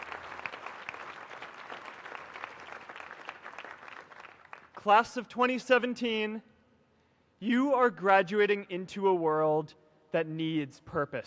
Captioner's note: applause